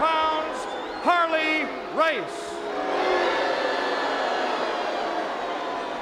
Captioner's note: crowd boos